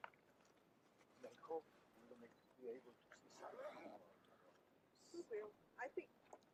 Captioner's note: speaks faintly; speaks faintly